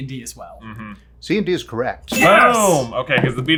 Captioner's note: ding